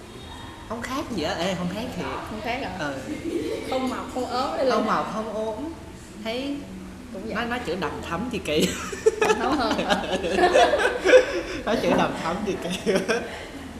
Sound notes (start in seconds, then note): 8.6 laugh